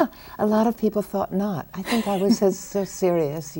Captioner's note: laughs